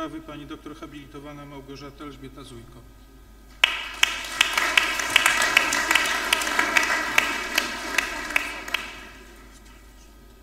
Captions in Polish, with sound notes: Pani dr hab. Małgorzata Elżbieta Zujko. [oklaski]